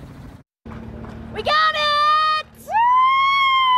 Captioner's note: cheers